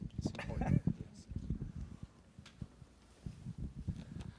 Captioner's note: laughing